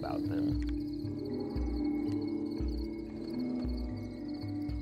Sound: crickets chirping

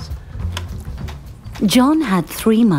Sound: door opening

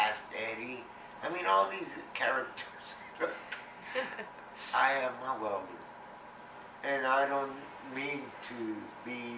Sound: laughs

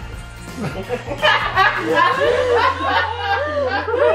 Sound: all laughing

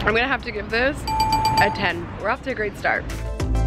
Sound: dings

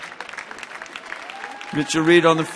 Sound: audience applauding

